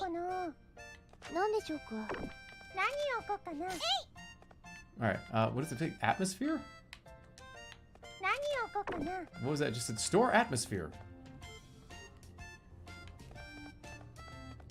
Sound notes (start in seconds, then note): none